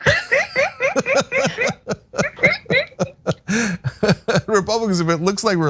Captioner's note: laugh